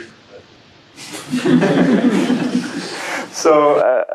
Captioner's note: laughter